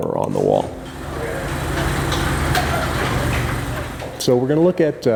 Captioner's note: garage door opening